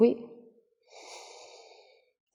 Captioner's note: inhale